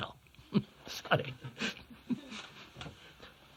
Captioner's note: laughs